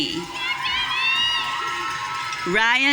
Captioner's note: audience cheering